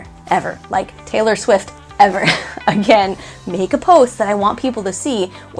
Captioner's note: laughing